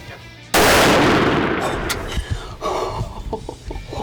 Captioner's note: rifle fires